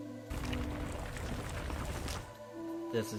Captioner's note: gravel sounds